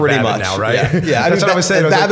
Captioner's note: chuckle